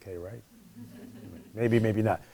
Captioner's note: laughing